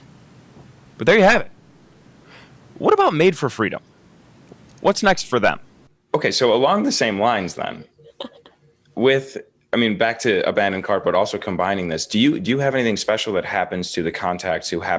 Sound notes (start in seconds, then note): 8.0 laughs